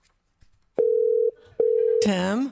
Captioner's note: phone ringing